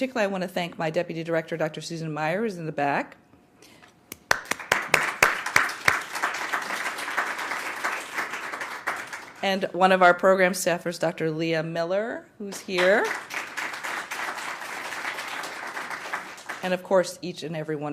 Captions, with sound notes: BUT PARTICULARLY I WANT TO THANK MY DEPUTY DIRECTOR DR. SUSAN MAIER IN THE BACK. [APPLAUSE] ONE OF OUR PROGRAM STAFFERS DR. LEAH MILLER WHO IS HERE. AND OF COURSE EACH AND EVERY ONE